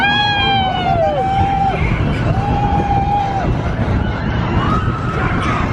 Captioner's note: coaster rumbling; people screaming